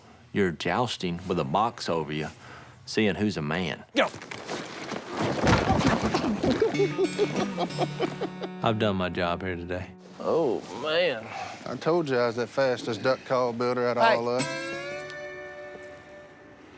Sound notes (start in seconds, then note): 5.4 grunting, laughing